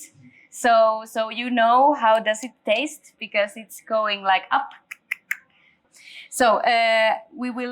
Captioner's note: clicking tongue